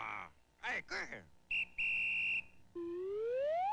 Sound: whistle blowing

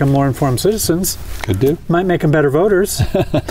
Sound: laughter

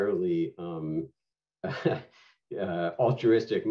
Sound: laughter

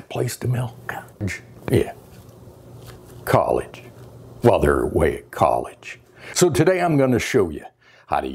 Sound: whispers

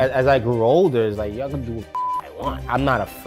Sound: beep

